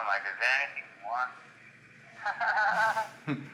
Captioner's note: laughs